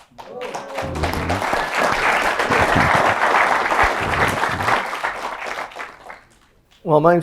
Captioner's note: applause